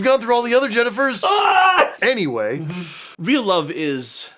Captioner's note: sound of despair